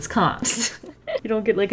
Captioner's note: laughs